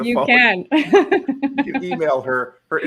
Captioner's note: laughs